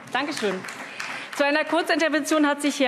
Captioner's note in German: Allgemeiner Beifall